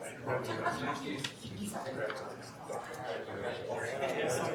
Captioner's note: people chattering